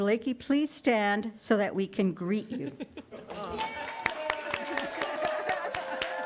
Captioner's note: audience cheers